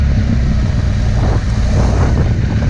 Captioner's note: engine roaring